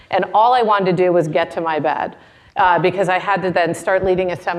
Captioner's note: none